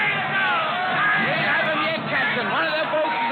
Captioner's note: cheering